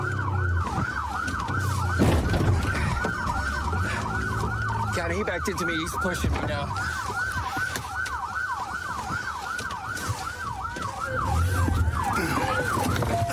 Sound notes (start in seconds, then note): 1.5 bangs; 6.9 sirens blaring